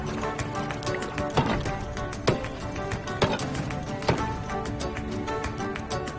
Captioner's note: shovel hitting salt flats